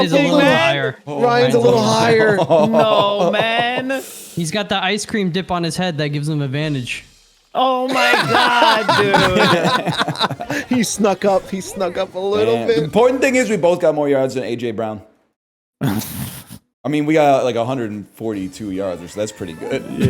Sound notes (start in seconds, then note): 7.9 lauhgs; 15.8 scoffs a laugh